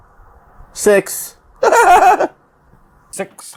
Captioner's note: giggles delightfully